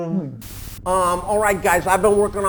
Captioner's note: static crackling